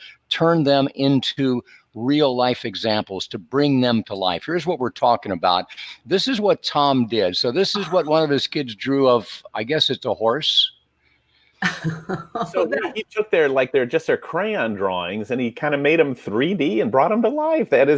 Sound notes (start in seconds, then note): 11.6 laughing